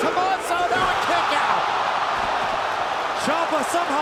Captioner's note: crowd cheering